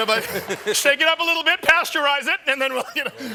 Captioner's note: laughter; laughter